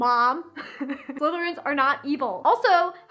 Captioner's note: laughs